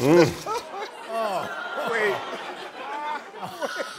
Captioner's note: laughter